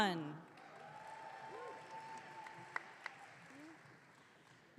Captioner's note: audience cheering